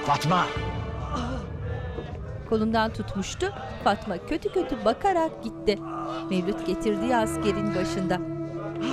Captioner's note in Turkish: İnleme sesleri